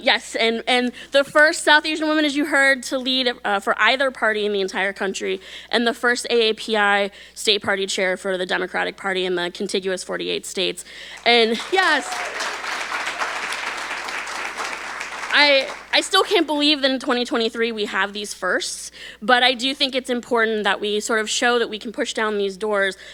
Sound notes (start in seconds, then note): 11.1 audience applauding